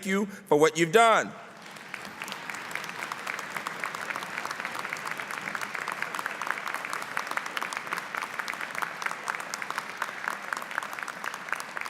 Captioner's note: applause